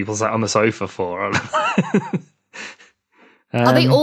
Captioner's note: laughs